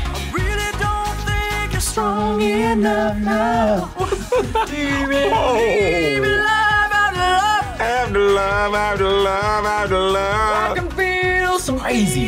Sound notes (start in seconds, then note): 3.6 laughs